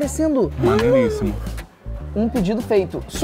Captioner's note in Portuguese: faz som de surpresa